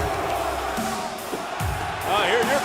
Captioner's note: crowd cheering